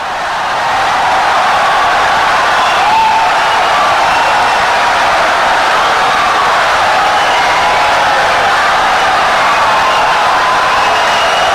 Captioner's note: wild applause and cheering for 17 seconds